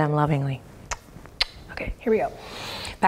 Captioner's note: kissing